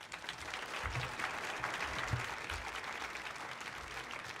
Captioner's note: audience applauds